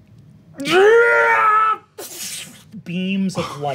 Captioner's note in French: hurlement